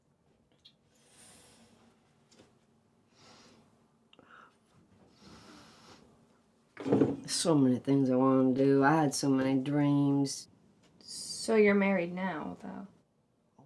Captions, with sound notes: (Betsy sniffing) So many things I wanted to do. I had so many dreams. - So you're married now, though?